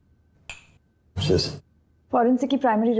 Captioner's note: Toasting